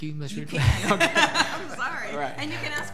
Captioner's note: laughing